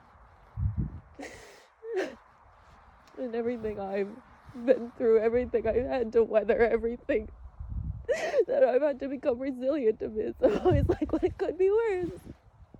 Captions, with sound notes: *wind gusts* *sobs weakly* And everything I've been through, everything I've had to weather, everything... *sobs lightly through words* that I've had to become resilient amidst, I'm always, like, 'Well, it could be worse.'